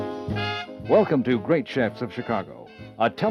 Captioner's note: voiceover